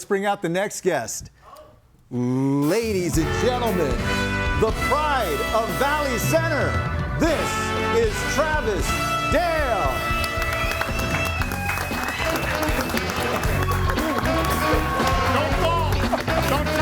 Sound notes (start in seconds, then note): 4.1 upbeat music; 9.8 audience applauds; 14.4 group laughs